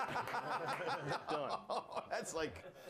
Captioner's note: scattered laughs